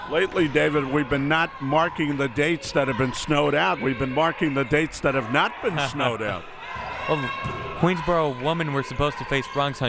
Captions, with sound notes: - Lately David, we've been not marking the dates that have been snowed out, we've been marking the dates that have not been snowed out. (laughs) - Queensborough women were supposed to face Bronx